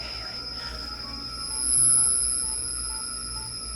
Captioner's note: beeping